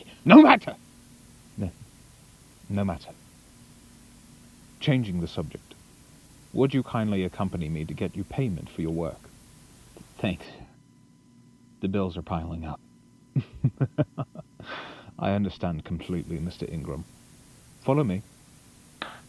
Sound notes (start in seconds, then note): 13.4 laughs Playfully